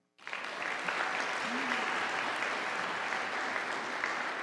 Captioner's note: audience applauding